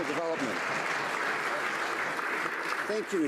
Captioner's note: some Applause